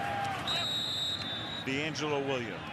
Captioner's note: whistle blowing